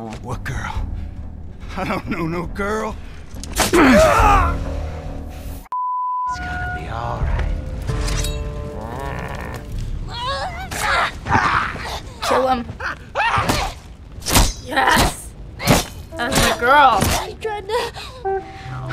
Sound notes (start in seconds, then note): 3.3 shrieking in pain; 7.8 unsheathes machete; 8.7 grumbles; 10.7 David screams in pain; 12.6 David shrieks; 14.1 hacking repetitively; 17.5 Ellie sobs; 17.6 sobs